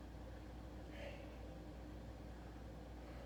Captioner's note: breaths